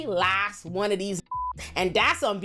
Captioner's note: beep